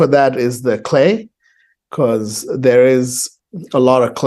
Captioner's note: none